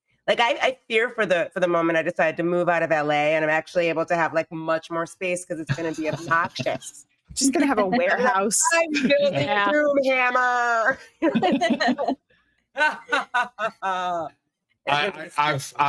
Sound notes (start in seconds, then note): 11.0 everyone giggling; 13.0 cackling